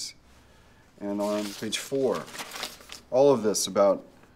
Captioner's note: paper rustling